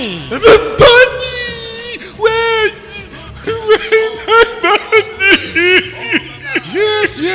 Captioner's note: loud sobbing